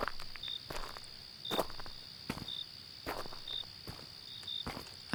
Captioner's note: crickets and ducks continue throughout